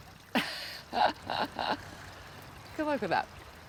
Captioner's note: laughs